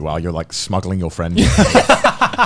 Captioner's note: laughing